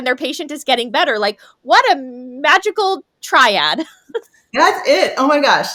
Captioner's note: chuckles